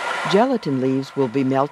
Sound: voiceover

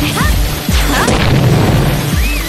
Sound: boing

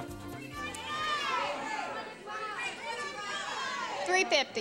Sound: audience shouting

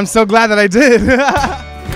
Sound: laugh

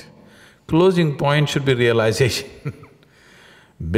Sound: laughs

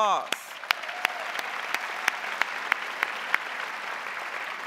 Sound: crowd applauding

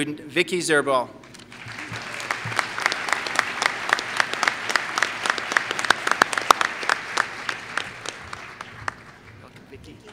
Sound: applause

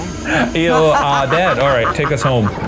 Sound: Bierce laughing

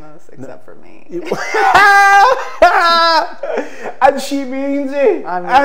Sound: both laugh

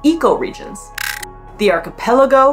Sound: background music; glitch sound effect

